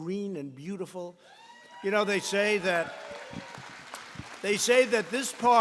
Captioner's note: applause